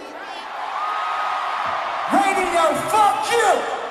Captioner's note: crowd cheering